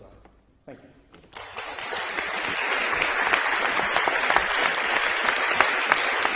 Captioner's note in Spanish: aplausos